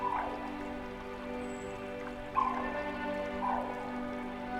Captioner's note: birds cawing